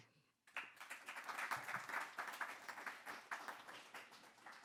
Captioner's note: audience clapping